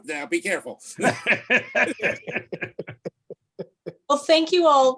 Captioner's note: laughs